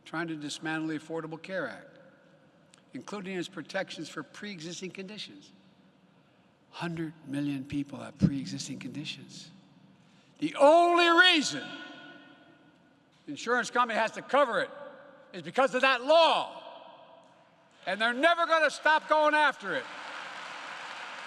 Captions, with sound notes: trying to dismantle the Affordable Care Act, including its protections for pre-existing conditions. Hundred million people have pre-existing conditions. The only reason the insurance company has to cover it is because of that law -- (applause) -- and they're never going to stop going after it.